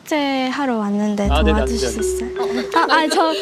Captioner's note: playfully